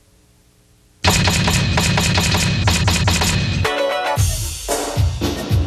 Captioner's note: letters clattering; upbeat music